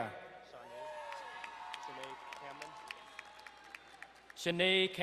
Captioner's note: crowd cheering and applauding